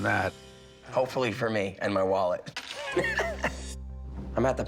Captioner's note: laughs